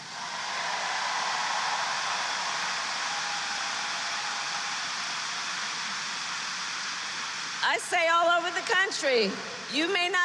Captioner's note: applause